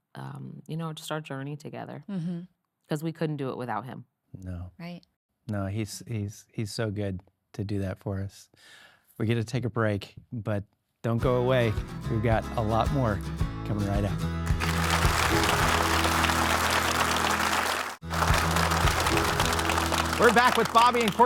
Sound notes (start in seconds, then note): 14.5 audience clapping; 15.4 upbeat music; 19.2 audience clapping; 19.2 upbeat music